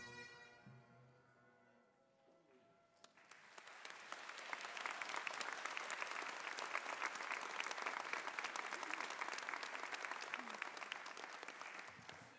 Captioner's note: applause